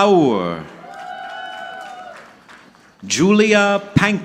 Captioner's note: audience clapping